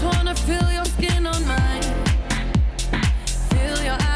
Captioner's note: none